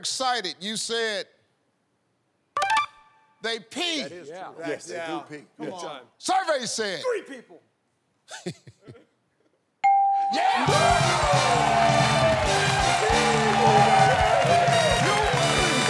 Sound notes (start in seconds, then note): 8.3 laughs; 10.3 cheering; 12.8 all shouting